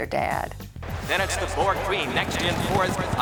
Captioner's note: racetrack Announcer